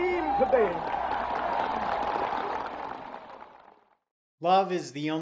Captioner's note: audience applauding